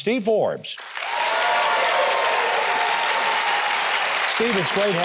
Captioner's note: audience applauding